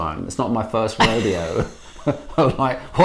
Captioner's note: laughing